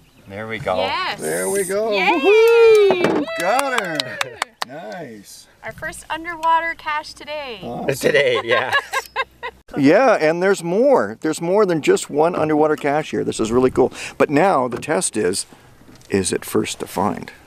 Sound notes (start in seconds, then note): 7.6 laughing